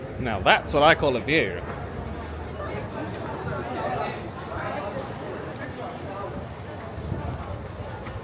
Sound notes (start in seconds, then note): 4.2 people chatting